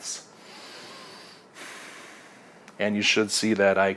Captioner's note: breathes loudly